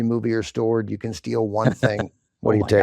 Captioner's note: chuckles